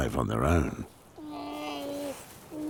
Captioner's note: wails